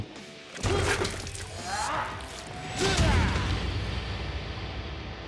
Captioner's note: grunting